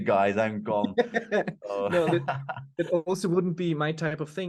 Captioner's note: laughing